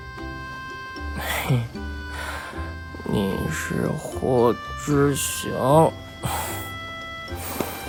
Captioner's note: giggles